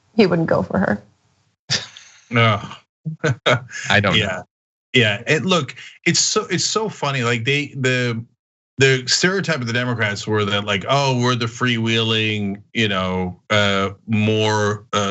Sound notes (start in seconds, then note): 3.2 laugh